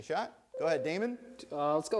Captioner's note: bell rings